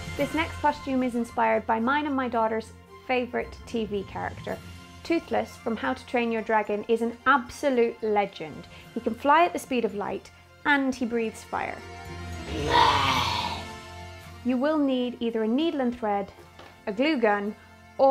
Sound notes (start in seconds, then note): 12.3 roaring